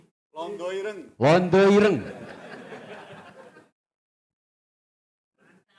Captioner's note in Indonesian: tertawa